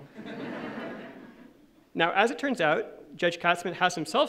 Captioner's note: laughing